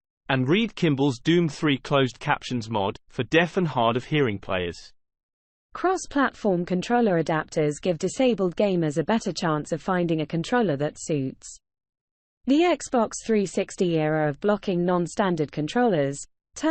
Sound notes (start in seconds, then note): 5.3 british female voice